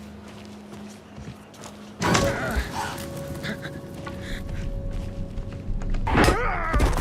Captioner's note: panting